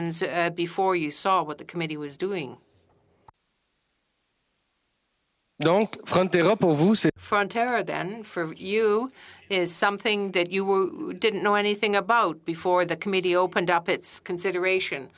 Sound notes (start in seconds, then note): 3.3 speaking French